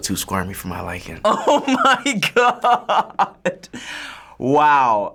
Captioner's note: laughing